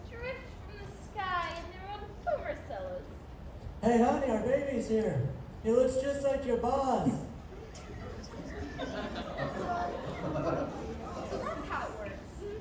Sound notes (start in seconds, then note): 7.5 slow Building Laughter from Crowd